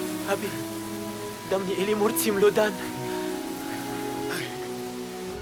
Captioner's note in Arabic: الصوت المنطوق البدوي